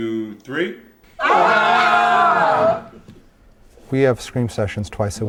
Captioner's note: people screaming